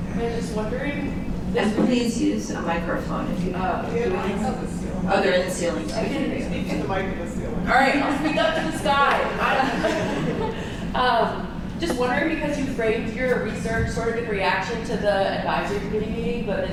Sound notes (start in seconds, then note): 9.4 chuckles